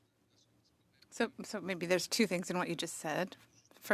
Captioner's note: speaking French